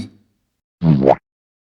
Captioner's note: boowomp